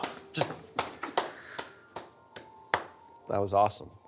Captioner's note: Carlisle clapping